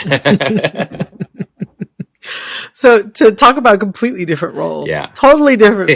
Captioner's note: laughter